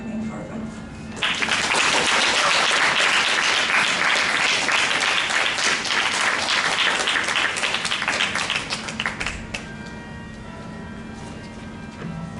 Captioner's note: applause